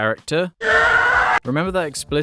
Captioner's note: scream of horror